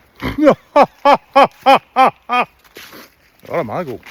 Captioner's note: laughter